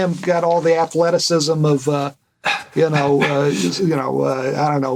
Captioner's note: stammer; stammer